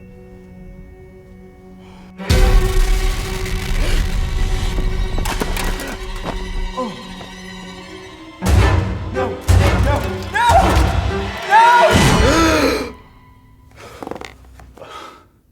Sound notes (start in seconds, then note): 0.1 ominous music continues; 3.8 gasping; 12.0 gasping